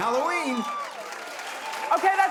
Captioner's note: cheering